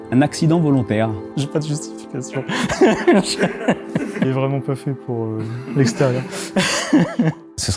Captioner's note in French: rires